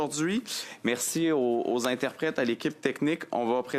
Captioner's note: speaking French